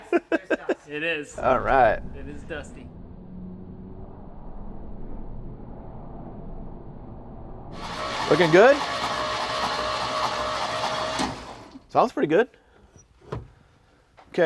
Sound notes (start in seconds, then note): 9.8 engine whirring